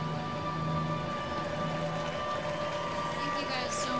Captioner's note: applause & cheers